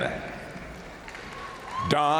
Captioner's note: crowd applauding; crowd cheering